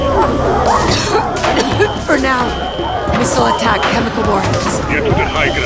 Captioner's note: coughs